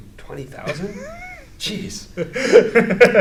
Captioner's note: laughing